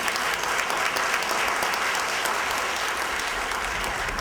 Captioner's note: applause